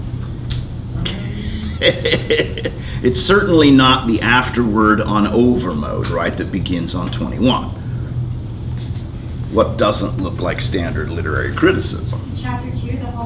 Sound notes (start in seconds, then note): 1.0 laughing